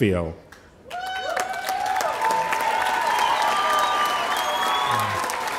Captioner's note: audience applauding